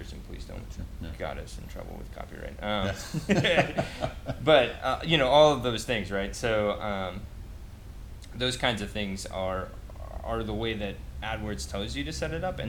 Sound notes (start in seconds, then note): 2.8 laughs